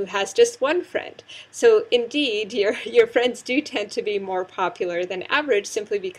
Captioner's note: laugh